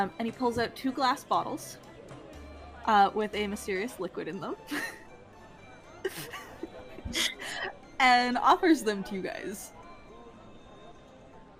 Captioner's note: laughs